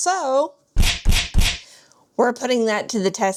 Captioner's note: smack sound effect